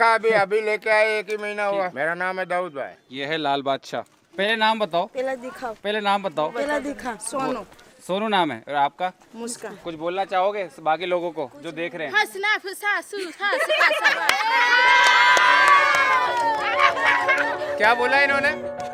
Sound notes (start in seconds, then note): 12.1 speaking local language; 13.3 cheering and laughing